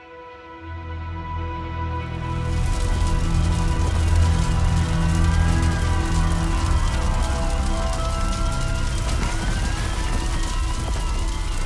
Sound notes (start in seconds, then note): 5.1 alarms, fire, the crash of a crumbling school